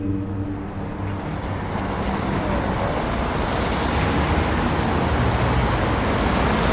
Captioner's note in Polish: the sound of moving cars